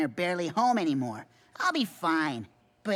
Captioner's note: gasp